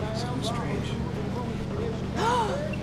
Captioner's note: gasps